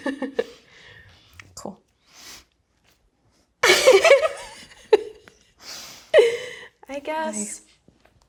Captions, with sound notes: Cool. (both laughing) - I guess...